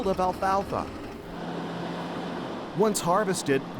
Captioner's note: engine rumbling